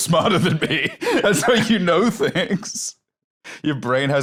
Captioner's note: laughing